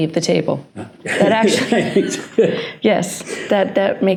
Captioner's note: both laugh